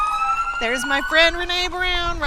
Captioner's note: sirens